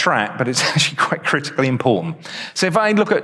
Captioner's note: chuckles